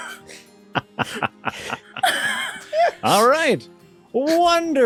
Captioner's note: embarassed Nervous Laughter